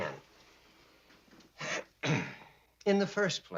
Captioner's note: clearing throat